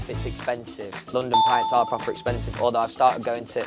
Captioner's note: bell chimes